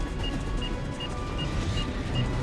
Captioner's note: alarm